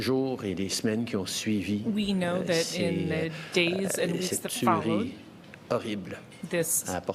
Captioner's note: speaking French